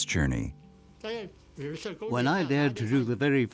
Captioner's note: speaking in foreign language